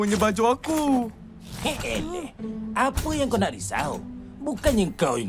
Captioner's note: scoffs